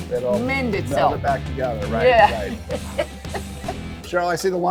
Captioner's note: laughs